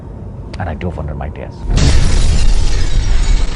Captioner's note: crash